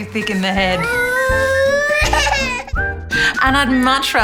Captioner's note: cries